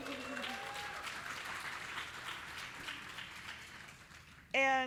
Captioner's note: audience applauding